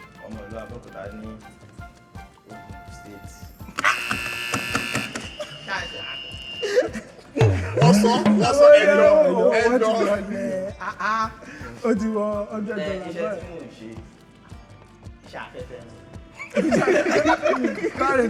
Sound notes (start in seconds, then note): 3.7 buzzer pressed; 3.7 laughs; 16.3 laughs